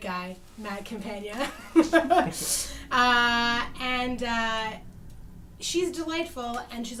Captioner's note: laughts